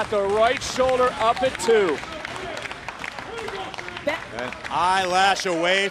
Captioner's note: crowd cheering